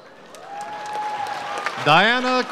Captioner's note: audience applauds